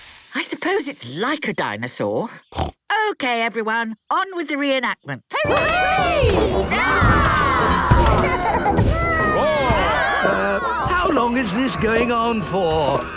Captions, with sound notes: - I suppose it's like a dinosaur. (snorts) Okay, everyone! On with the reenactment! (cheering) (roarings, giggling) - Um, how long is this going on for?